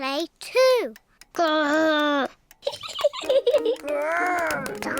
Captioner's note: laughs